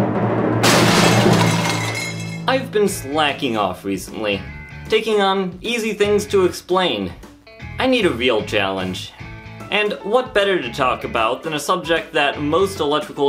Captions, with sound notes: *Crash* I've been slacking off recently: taking on easy things to explain; I need a real challenge. And what better to talk about than a subject that most electrical